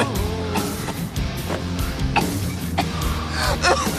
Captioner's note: coughing